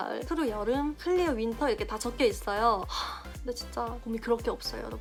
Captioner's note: sigh